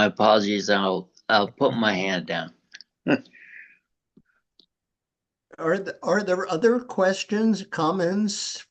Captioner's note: chuckles